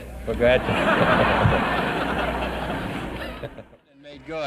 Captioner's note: people laughing